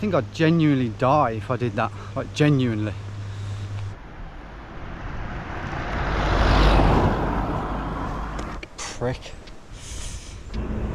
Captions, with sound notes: I think I'd genuinely die if I did that. Like, genuinely. (van whooshes) Prick.